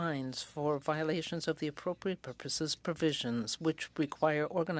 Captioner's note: speaking French